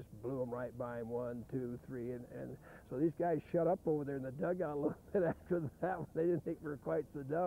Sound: laughing

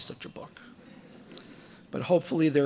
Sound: audience laughing

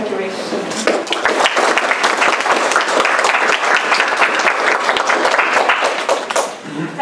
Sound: applause

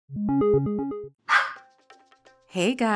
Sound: start sound, dog barks

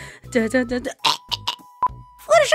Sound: chokes

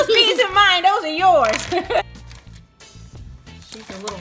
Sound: giggles

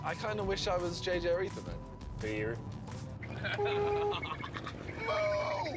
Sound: horn blares

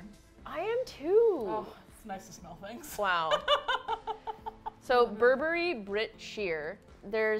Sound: laughs

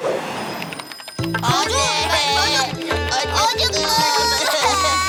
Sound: baby cry

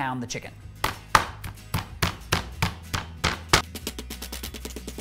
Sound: mallet pounding

